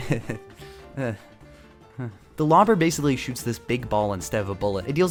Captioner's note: nervous chuckle